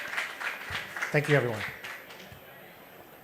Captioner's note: applause